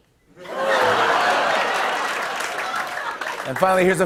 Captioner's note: laughter